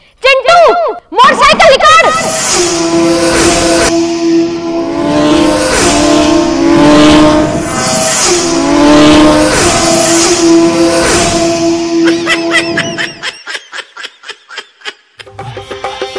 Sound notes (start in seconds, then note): 2.3 motorcycle revs